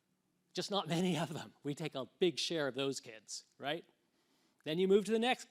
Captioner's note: laughs